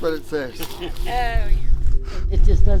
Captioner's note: chuckles